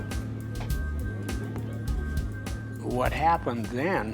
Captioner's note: door Opens; footsteps